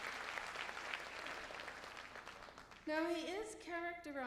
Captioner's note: applause